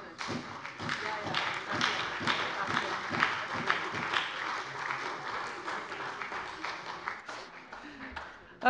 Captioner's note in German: Beifall bei der SPD